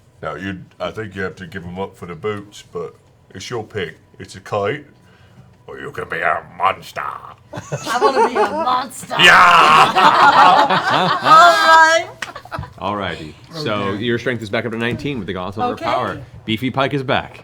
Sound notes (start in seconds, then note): 9.2 laughter